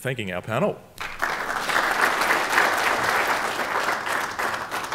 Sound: applause

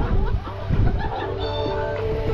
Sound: laughs; beep

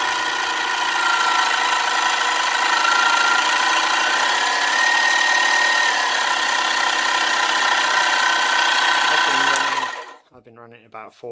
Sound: changing pitched noise

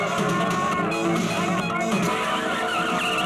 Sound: horn blares; tires squealing

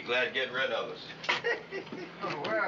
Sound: chuckles

